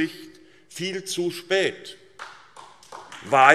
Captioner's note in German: Beifall SPD